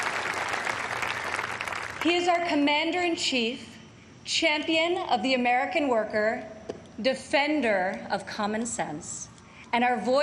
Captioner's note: applause